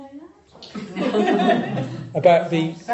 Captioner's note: audience laughs